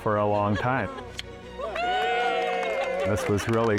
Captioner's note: cheering